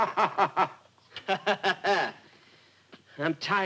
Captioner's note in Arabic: يضحك